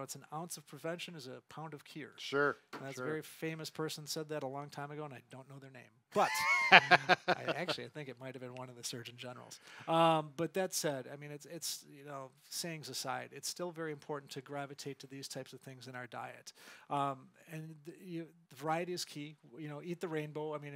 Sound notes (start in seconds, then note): 6.1 laughs